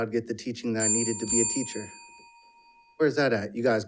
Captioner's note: timer ringing